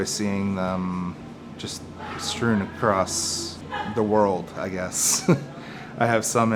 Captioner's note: chuckles